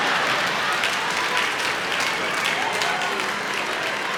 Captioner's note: audience applauding